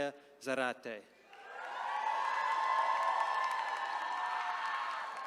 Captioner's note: attendees cheering